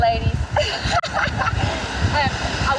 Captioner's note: both laugh